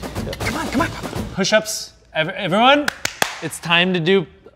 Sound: claps

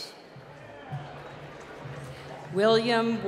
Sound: applause

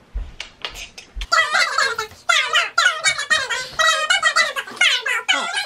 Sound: fast forwarded voices

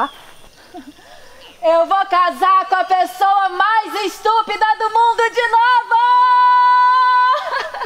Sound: chuckles; chuckles

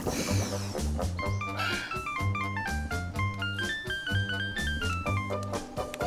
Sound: phone chiming

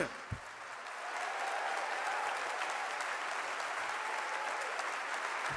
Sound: audience applauding

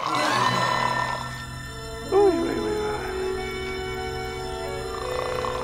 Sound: snores in French

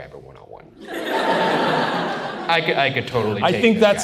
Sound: audience laughs

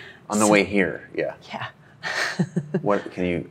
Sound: laughs

